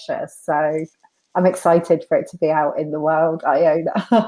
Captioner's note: laughs